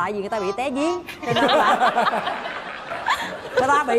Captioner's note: laughs